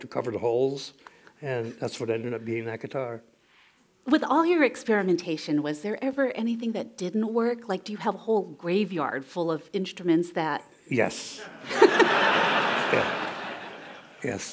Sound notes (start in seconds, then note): 11.4 laughter